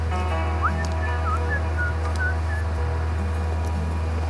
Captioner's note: whistling